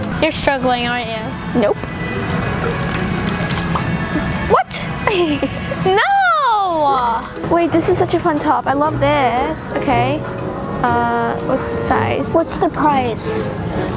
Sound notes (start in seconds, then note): 5.0 laughs